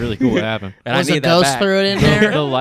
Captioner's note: speaks faintly